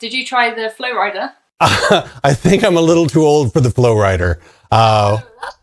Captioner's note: laughing